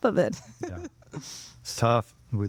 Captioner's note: laughing